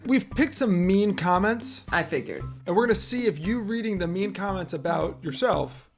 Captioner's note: none